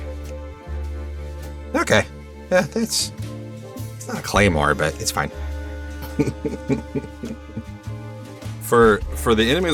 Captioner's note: chuckles